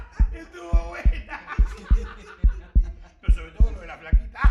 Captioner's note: cops joke and laugh